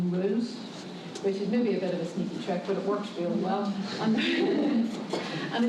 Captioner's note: laughs